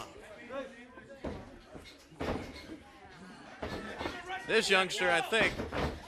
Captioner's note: crowd chatter